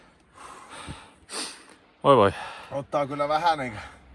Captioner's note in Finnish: huokaisee